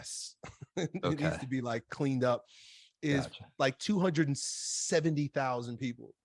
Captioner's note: laughs